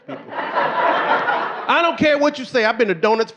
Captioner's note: audience laughing